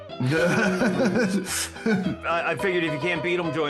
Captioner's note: laughing